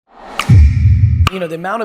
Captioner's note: graphic whooshes